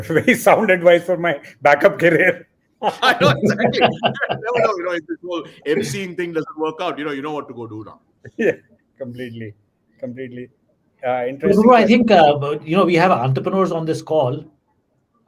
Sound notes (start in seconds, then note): 2.8 laughter